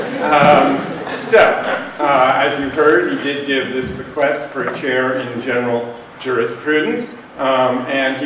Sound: laughter

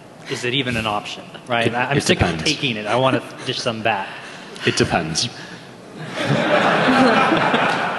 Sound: laughing

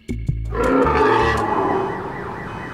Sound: lion's roar

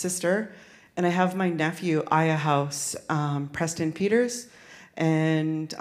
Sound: speaks in Sk1wx1wu7mesh

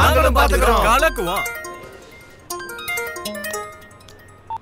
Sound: phone rings

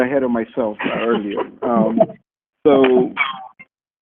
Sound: laughing

